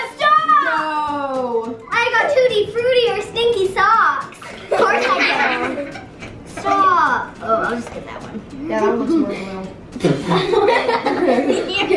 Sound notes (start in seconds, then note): 4.4 laughs